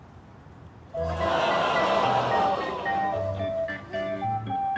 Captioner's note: all exclaim